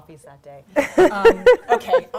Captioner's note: laughing